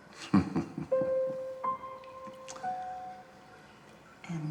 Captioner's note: Thomas laughs